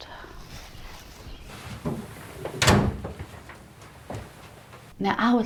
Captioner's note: walking and door closing